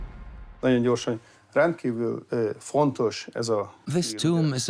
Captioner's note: in Hungarian; dubbed in English